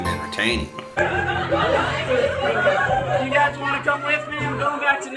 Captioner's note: laughing